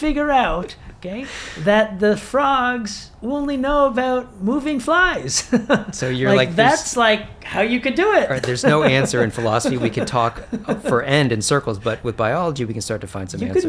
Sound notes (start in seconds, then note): 5.3 laughs